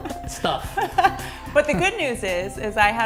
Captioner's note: laughter